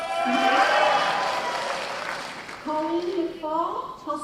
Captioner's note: cheers and applause